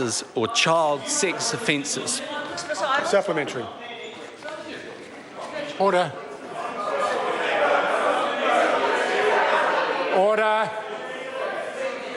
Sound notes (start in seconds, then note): 3.3 members shout